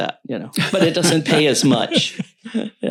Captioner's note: laughs